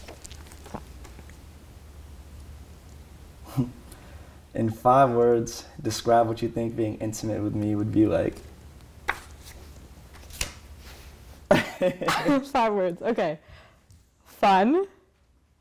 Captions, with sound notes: (chuckles) In five words, describe what you think being intimate with me would be like. (laughs) - In five words, okay. Fun...